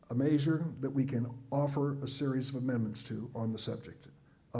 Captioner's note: none